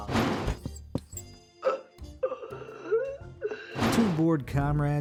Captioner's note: man wheezing